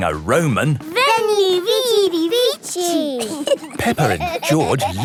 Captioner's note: laughing